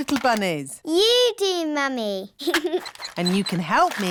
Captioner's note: giggles